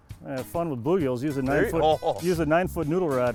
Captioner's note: laughs